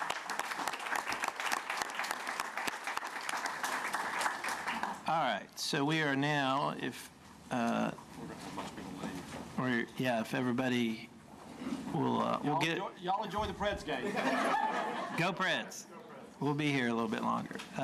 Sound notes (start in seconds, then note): 6.0 applause